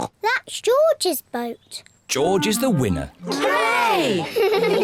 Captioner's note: giggle